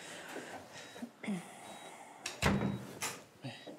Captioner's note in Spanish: sonido al cerrar la puerta